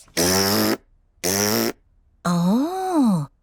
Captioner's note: blows raspberry